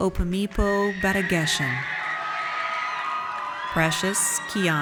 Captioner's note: audience cheers